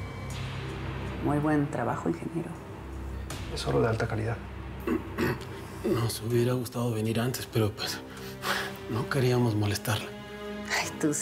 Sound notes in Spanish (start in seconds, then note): 5.8 Ramón carraspea